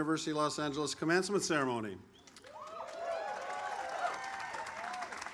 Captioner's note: audience applauds